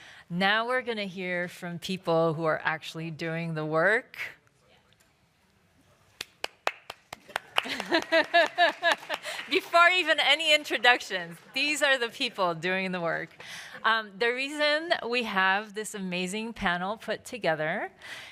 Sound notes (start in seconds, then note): 6.2 applause; 7.5 laughs